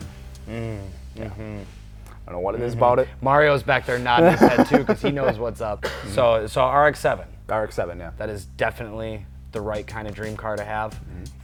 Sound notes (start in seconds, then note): 4.0 laughs